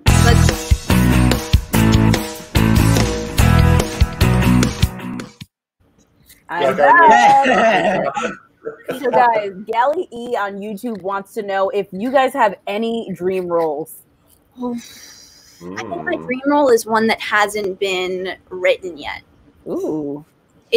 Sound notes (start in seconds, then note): 0.0 upbeat rock music; 6.7 laughing